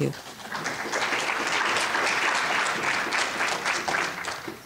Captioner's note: audience clapping